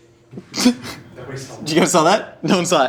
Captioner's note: giggles